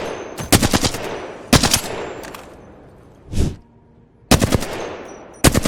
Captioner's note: sound of shooting; sound of shooting